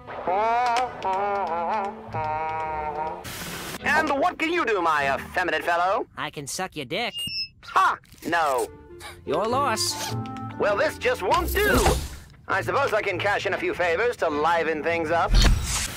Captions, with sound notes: (continues humming) And what can you do my effeminate fellow? I can suck your dick (microphone feedback) Your loss. Well, this just won't do! I suppose I can cash in a few favors to liven things up